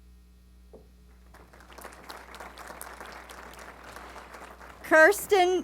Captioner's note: applause